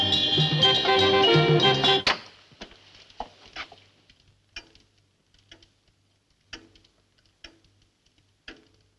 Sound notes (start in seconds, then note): 1.7 clock ticks - fire crackles; 1.7 silence - music has stopped